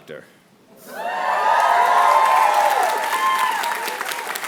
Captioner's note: applause